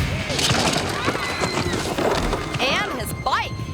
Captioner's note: people screaming